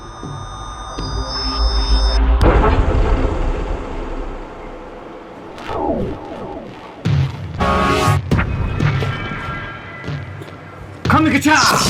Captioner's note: sound fx noises for awhile